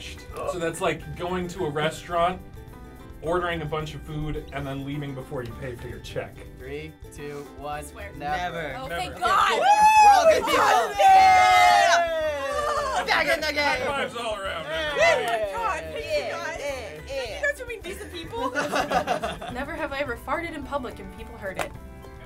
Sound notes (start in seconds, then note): 10.7 all cheering; 17.8 laughing